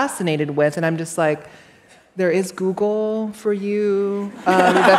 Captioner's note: laughter